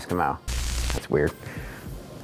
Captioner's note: static buzzing